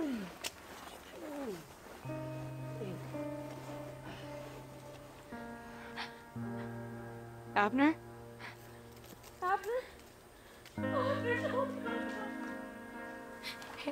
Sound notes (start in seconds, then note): 5.8 gasps; 10.8 sobbing